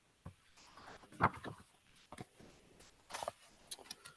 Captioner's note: pages rustling